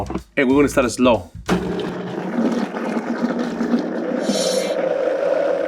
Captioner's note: blender whirring